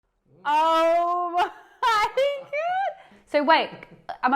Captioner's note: laughing